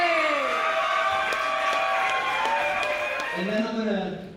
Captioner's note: applause